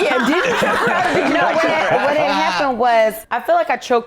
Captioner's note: all laughing